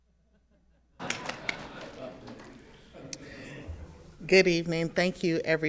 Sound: everyone laughing

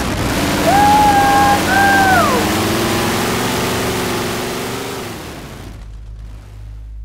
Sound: cheers as they drive out of the garage

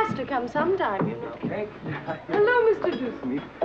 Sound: chuckles

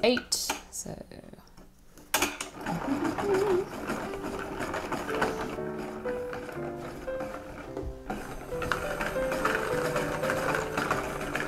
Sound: starts to hum a little tune while still winding

